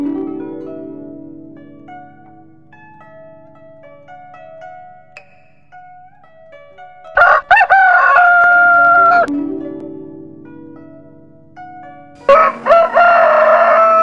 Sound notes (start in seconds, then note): 7.2 cockerel crows